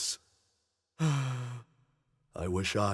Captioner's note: longing sigh